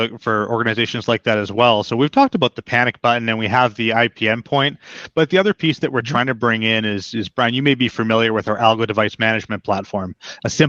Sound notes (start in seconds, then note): none